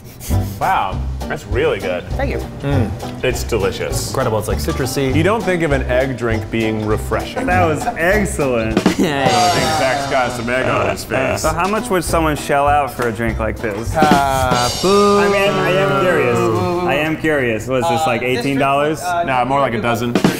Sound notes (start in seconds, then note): 9.2 cymbal crashing; 14.1 men booing